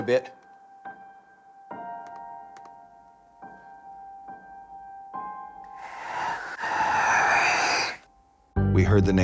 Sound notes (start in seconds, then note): 3.9 whisper